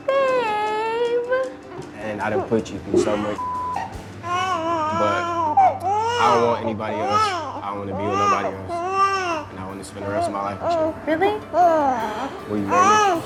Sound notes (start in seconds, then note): 3.4 beep; 12.7 cries